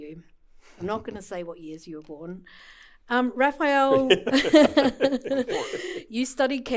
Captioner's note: laughter